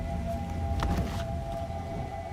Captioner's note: wind whistling